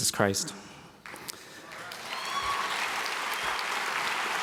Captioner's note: applause